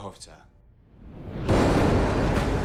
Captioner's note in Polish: grzmot